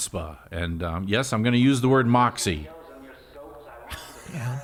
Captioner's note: laughs